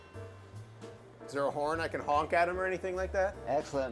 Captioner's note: bell chimes